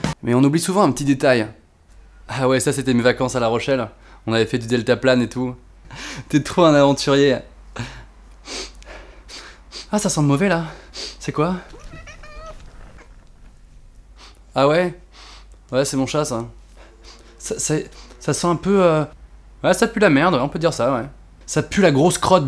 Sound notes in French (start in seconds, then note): 8.4 Reniflements; 11.6 Ronronnement; 11.8 reniflement